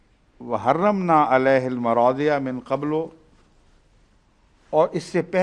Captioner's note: Arabic